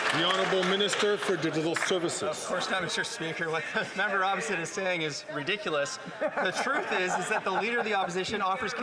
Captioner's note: some Applause